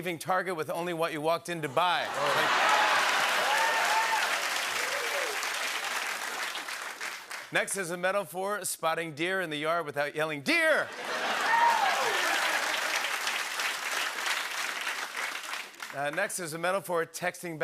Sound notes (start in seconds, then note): 2.0 laughter, cheering, and applause; 10.9 laughter, cheering, and applause